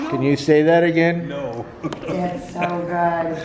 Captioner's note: laughing